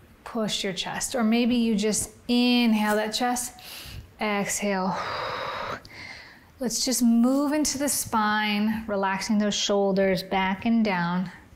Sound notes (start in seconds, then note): 4.9 inhales; 4.9 exhales